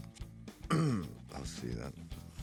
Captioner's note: throat clears